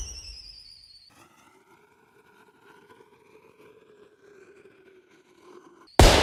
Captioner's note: fireworks launching sound effect; fireworks cracking sound effect